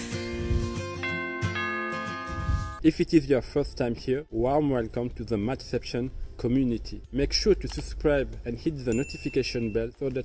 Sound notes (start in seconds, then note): 0.9 doorbell ringing